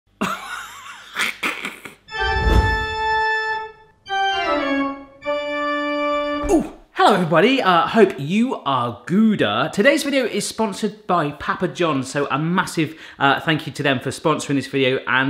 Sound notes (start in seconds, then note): 1.0 laughing; 2.1 spooky music